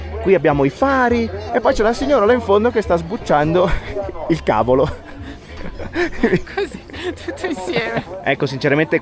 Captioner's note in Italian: risate